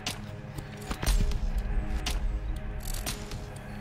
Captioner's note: footsteps